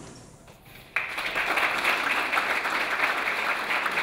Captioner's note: clapping